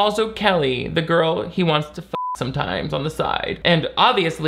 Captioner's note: beep